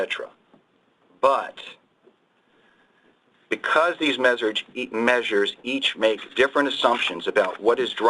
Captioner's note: pages turning